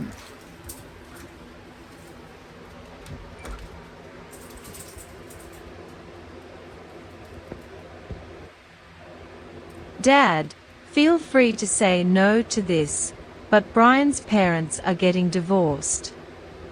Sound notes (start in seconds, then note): 2.7 door opens and closes, then locks the door